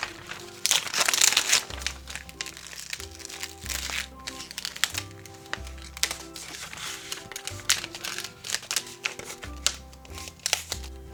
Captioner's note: vinyl rustling